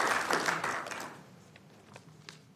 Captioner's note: applause